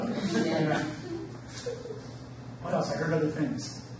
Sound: audience laughs

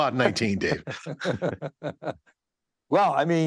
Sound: laughter

